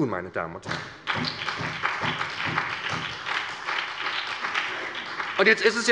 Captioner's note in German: Beifall bei der SPD